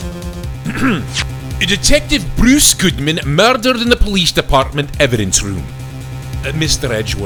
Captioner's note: ahem